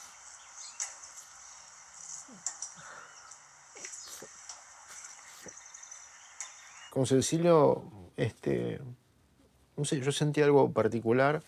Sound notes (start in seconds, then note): 2.5 moans